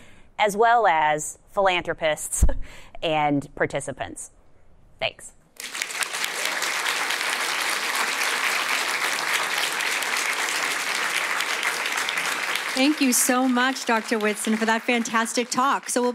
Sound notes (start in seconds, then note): 8.0 applause